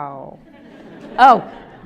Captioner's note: audience laughs